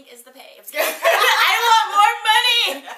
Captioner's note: both laughs